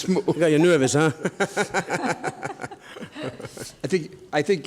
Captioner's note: laughs